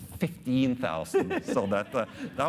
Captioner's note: laughing